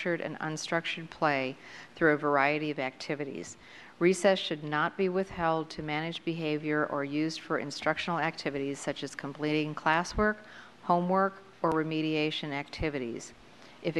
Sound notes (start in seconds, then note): none